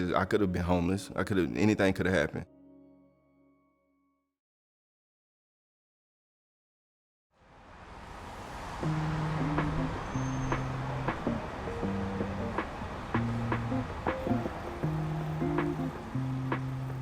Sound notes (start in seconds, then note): 7.5 bus engine rumbling; 10.5 soft music